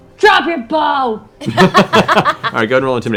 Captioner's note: laughter